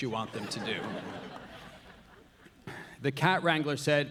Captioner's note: audience laughing